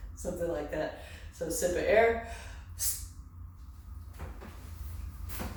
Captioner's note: exhales